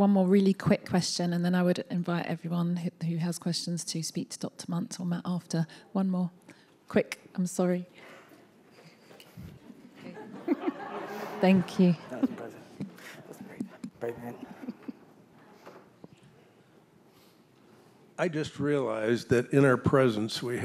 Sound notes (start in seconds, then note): 9.7 audience laughing